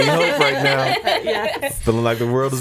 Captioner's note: laughing